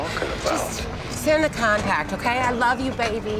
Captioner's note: sighs